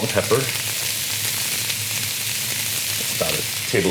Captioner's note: sizzling